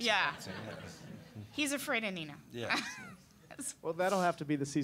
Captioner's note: audience laughing